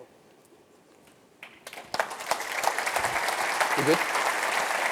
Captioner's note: applause